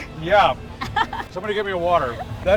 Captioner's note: laughs